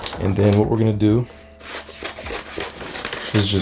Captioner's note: cutting paper sound